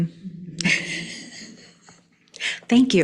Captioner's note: laughing